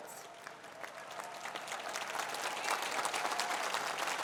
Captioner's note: applause